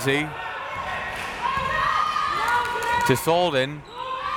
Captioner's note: crowd members shouting